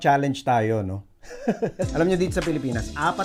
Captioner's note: laughs